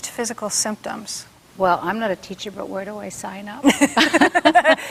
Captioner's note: laughing